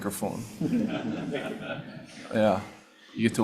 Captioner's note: attendees laughing